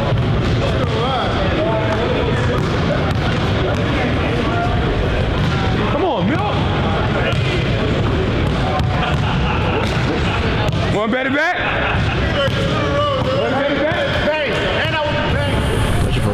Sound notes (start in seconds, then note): 8.8 laughter